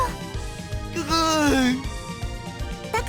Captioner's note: sob